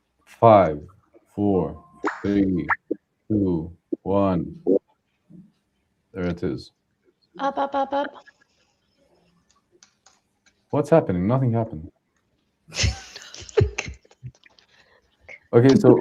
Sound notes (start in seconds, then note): 12.7 laughter